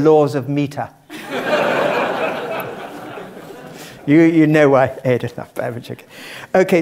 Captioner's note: laugh